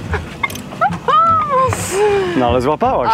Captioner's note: laughter